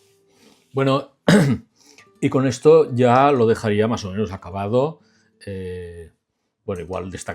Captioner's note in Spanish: carraspeo